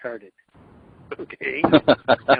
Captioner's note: laughs